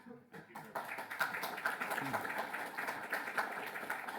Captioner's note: applause